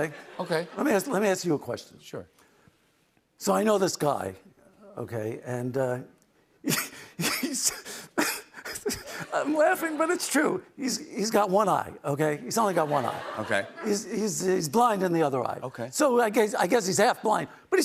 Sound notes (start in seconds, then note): 7.4 laughs